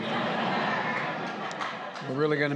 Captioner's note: laughter